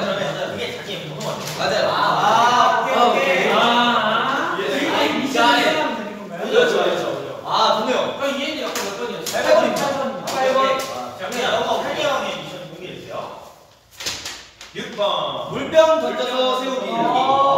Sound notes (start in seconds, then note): 1.6 noises of understanding